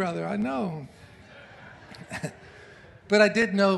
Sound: congregation laughs

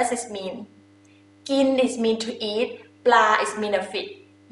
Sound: talking in foreign language

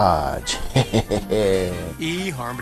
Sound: chuckles

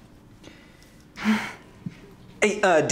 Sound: small laugh

